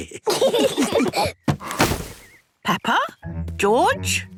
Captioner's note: laughter